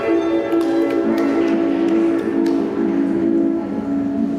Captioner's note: scattered clapping